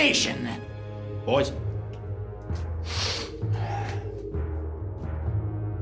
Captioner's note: sniffles